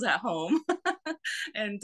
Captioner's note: laughs